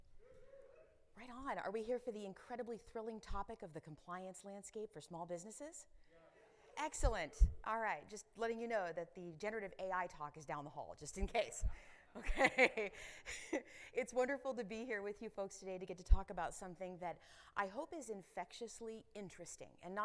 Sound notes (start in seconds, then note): 12.2 chuckling